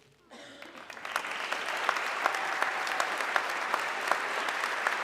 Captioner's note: audience clapping